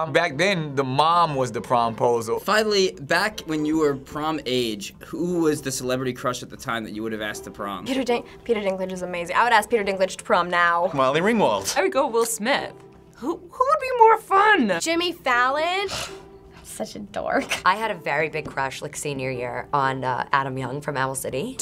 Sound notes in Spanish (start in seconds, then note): 15.8 resoplidos